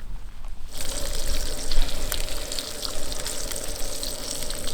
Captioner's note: oil sizzling